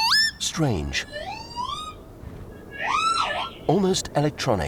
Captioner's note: call slowed down